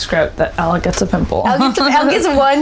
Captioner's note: laughing